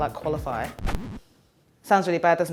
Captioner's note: vinyl scratch